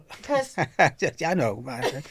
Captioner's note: laughing